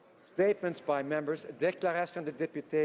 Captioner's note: speaking French